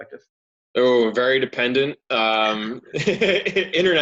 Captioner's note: laughs